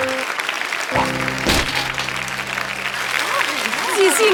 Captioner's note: body thudding